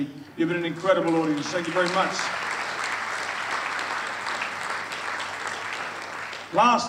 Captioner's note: audience applauds